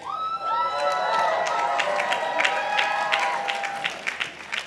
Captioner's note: participants cheering